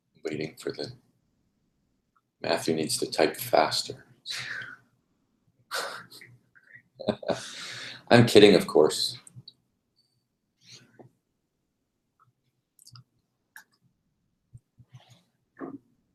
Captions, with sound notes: >> Waiting for, Matthew needs to type faster. [LAUGH] I'm kidding, of course.